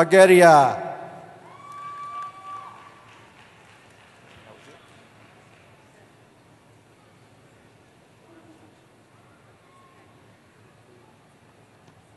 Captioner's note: cheering